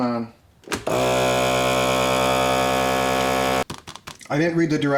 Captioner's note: loud humming